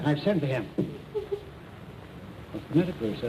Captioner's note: sobbing